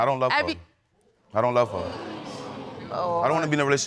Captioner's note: audience exclaiming